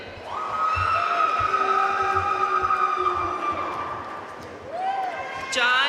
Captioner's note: audience cheering and applauding